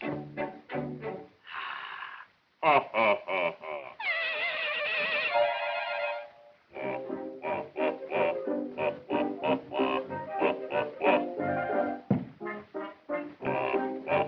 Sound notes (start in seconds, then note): 2.6 laughs; 4.4 piglets giggle; 6.8 scatting